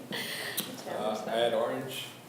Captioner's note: laughs